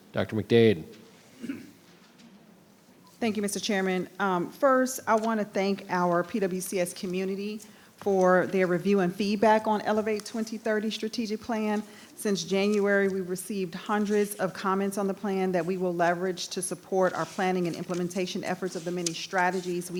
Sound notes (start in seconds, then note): 1.3 person clearing throat; 1.4 people murmuring